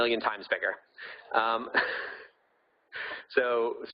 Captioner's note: laughing